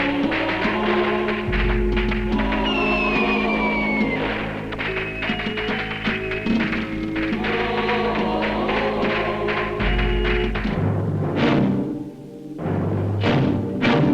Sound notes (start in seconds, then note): 2.5 firecrackers popping; 2.5 reverent music; 11.1 dramatic music